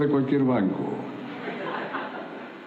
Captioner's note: laughter